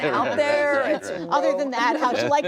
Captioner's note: laughter